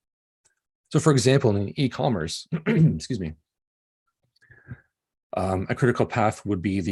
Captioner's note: coughing